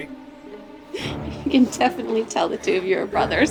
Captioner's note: giggles